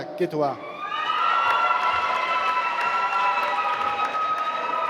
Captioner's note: applause